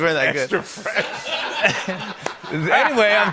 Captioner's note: laughter